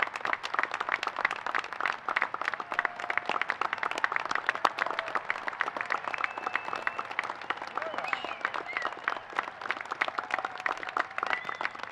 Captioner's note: applause